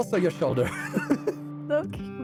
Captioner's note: laughs